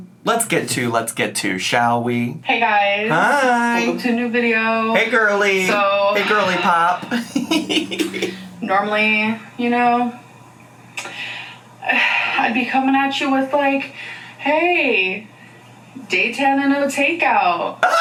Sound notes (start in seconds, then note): 7.8 laughs; 10.7 sighs; 17.8 laughs